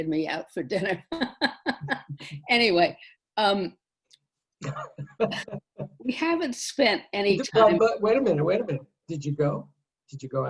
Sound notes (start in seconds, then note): 1.0 laughs; 4.6 laughs; 6.9 laughter